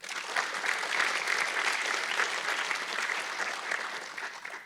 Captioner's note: audience clapping